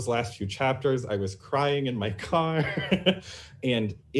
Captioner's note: laughs